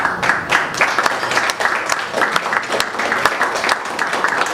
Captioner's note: audience applauds